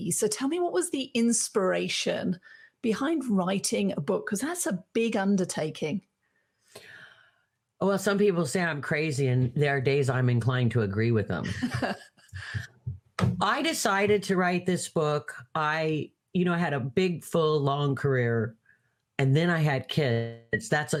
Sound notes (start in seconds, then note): 11.4 laughing; 13.1 hand banging